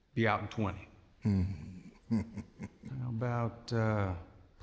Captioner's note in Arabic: ضحكة مكتومة